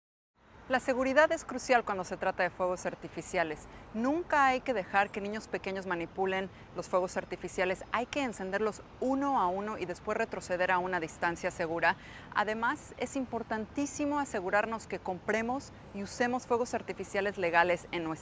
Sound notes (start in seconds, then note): 2.0 speaking Spanish